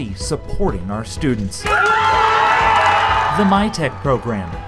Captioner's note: cheers and applause